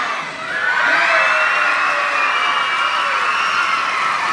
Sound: applause

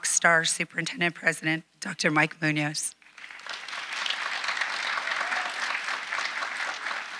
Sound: audience applauding

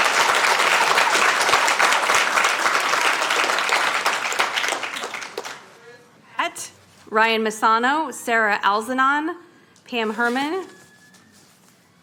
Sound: cheers and applause

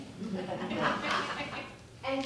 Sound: audience Laughter

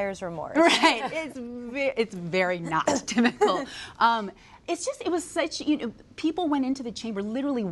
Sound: laughter

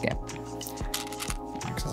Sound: stones rattling

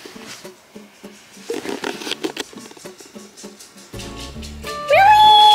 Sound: distant sound of footsteps

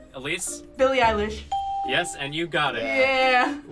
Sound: ding

